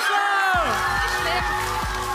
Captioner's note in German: Jubel